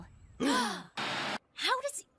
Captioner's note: Zoey and Duncan Gasping